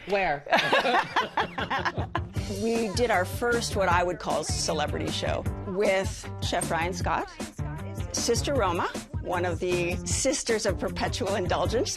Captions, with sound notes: Where? [ Laughter ] We did our first what I would call celebrity show with Chef Ryan Scott, Sister Roma, one of the Sisters of Perpetual Indulgence